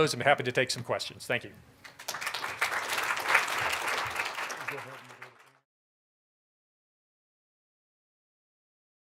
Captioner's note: applause